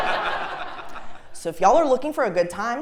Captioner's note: laugh